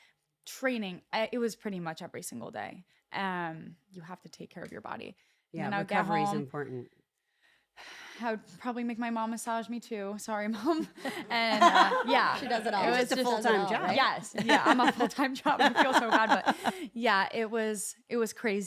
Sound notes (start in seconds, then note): 10.9 laugh